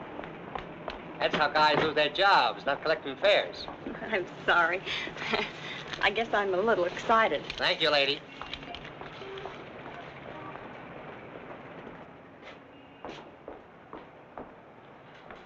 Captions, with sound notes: That's how guys lose their jobs, not collecting fares. - I'm sorry. I guess I'm a little excited. - Thank you, lady. (traffic droning) (footsteps thumping)